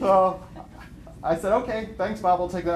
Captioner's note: laughter